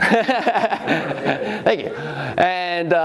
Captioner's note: laughing